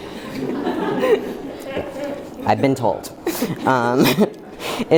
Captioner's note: laughter